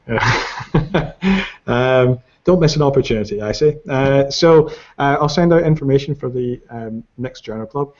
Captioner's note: laughs